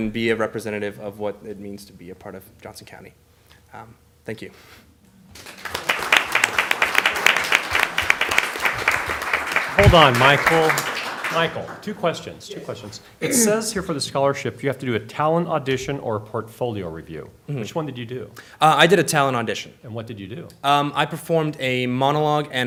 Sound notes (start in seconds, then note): 5.3 applause